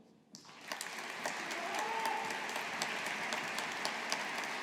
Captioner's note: audience applauding